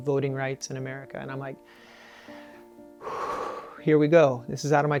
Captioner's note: exhales